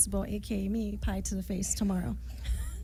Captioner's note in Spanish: risas